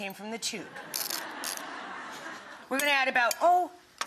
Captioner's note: audience laughs